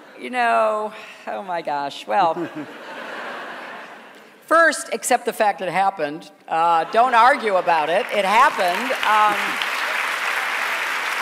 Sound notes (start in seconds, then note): 2.3 laughter; 6.8 laughter; 7.9 applause